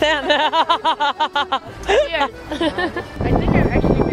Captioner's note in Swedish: Skratt